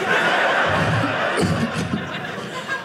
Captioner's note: audience laughing